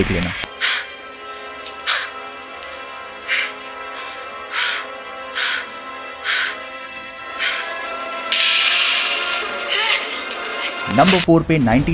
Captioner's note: heavy gasping